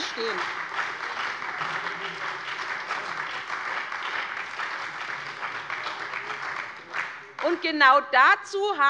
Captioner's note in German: Beifall bei der SPD und der FDP